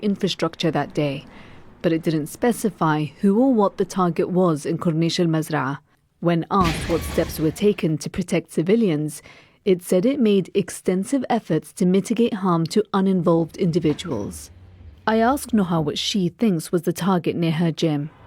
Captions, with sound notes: infrastructure that day, but it didn't specify who or what the target was in Corniche Al Mazraa. When asked [explosion] what steps were taken to protect civilians, it said it made extensive efforts to mitigate harm to uninvolved individuals. I asked Noha what she thinks was the target near her gym.